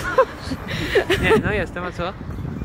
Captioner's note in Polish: śmiech